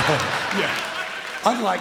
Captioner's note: laughs forcibly